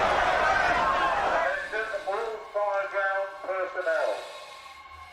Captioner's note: man over speakers